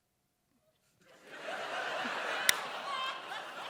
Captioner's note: laughter